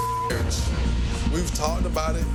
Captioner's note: beep